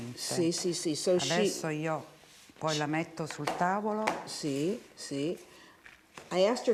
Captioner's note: speaking Italian